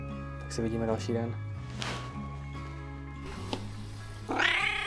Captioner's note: meow